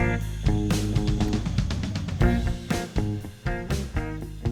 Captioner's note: insects chirping